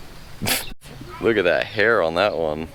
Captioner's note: scoffs